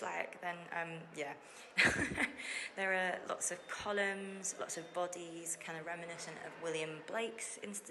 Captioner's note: laughs